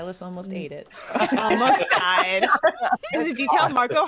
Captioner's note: all laughing